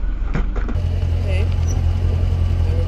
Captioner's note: engine running